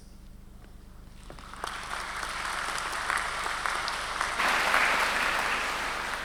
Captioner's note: congregation clapping